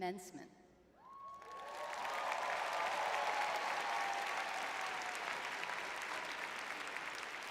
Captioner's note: cheering